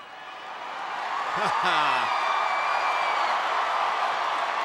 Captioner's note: crowd cheering